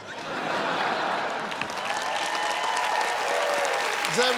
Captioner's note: cheers and applause